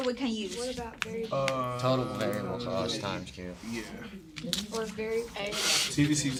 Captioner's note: students murmur